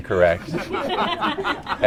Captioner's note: everyone laughing